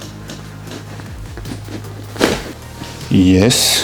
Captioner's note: crunch of bones